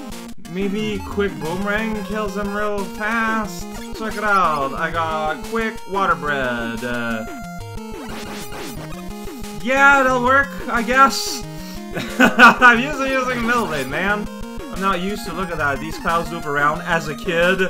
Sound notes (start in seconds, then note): 11.8 laughs